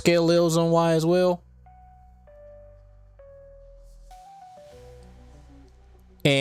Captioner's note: silence